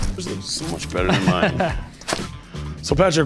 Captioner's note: laughs